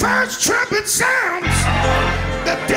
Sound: crowd exclaiming

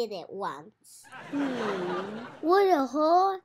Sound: audience laughs

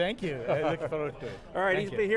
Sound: laughter

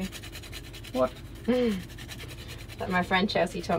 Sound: nutmeg grating

